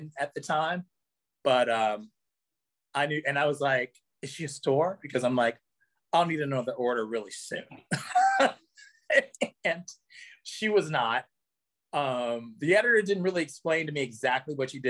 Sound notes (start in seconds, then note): 8.0 laughs